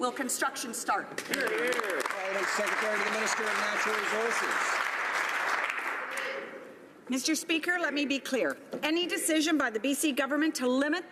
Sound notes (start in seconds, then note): 4.9 some Applause